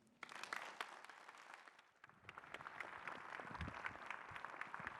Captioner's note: applause